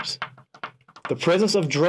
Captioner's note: pen tapping